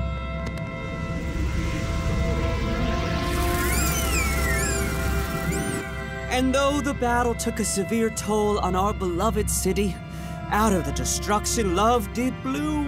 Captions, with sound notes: [squeaking] And though the battle took a severe toll on our beloved city, out of the destruction love did bloom.